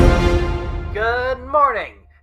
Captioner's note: flashy news alarm or something